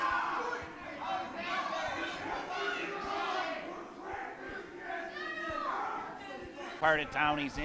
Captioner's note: crowd noise